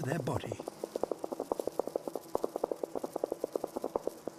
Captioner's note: constant tapping